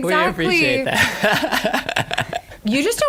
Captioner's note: laughter